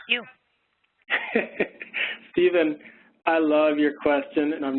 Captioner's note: laughs